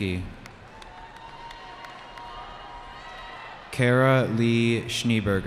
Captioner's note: cheering